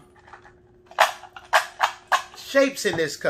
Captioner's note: shape objects cluttering